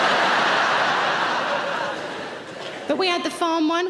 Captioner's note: laughing